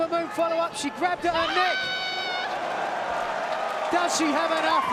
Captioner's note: Ember shouts